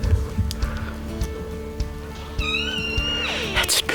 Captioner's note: elk mewing